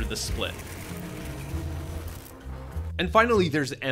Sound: air swooshing

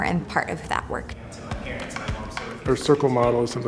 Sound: man speaking

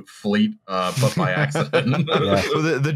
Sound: laughter

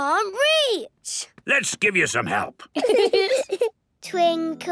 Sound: giggling

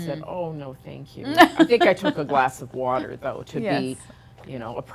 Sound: laughing

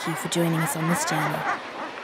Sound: seabirds calls

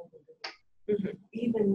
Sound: voiceover

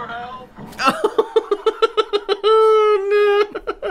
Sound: panicked Laughter

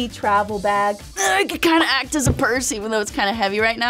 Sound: groaning

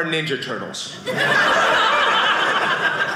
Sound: audience laughing

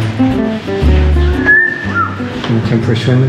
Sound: wolf whistle

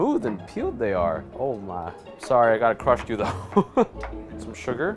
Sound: laughs

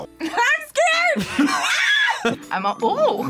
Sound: laughs; screams

